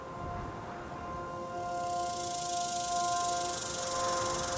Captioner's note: rattlesnake rattles